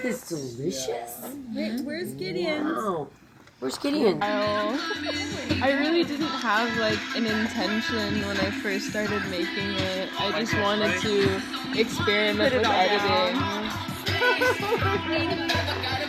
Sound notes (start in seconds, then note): 3.3 music playing in the back; 13.8 laughs